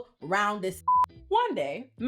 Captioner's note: beep